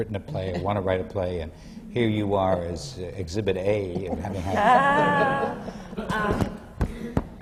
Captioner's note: laughter